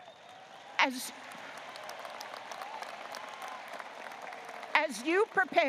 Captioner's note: audience applauding